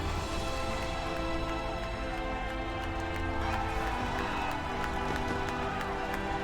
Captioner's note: fireworks exploding; crowd cheering